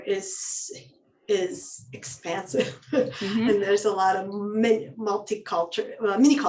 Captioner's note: laughs